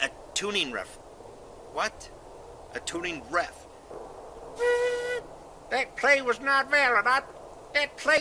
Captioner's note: whistle